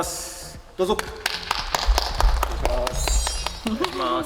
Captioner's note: applause